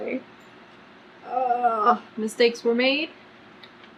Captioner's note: groans